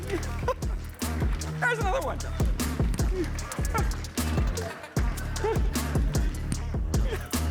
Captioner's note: upbeat music; laughs